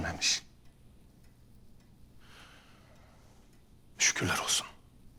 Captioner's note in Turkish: Saat efekt sesi